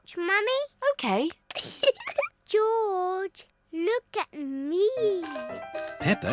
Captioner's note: giggles